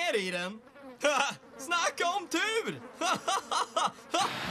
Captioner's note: laughs